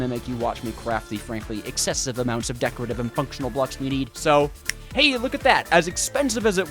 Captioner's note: snap